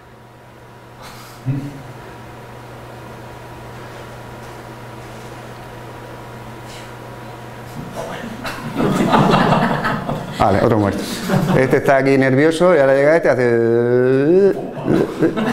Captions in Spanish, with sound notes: (risas) este de aquí abajo está nervioso